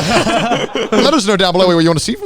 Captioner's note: everyone laughing